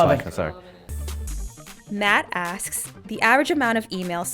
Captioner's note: voiceover